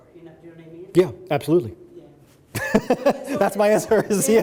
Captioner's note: laughs